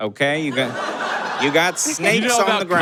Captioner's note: audience laughs heartily